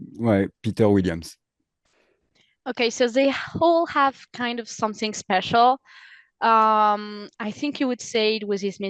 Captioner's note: translating from French